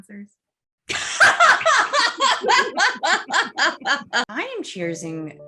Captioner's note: laughs